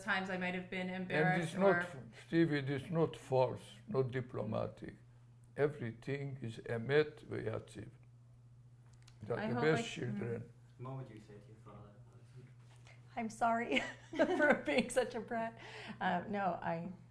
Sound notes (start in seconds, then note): 8.0 non-english; 15.1 laughs